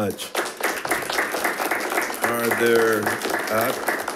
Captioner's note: attendees applauding